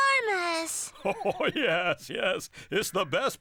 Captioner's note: chuckling